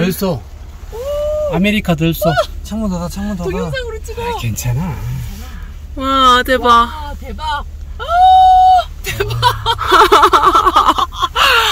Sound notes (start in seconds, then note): 9.0 hehehe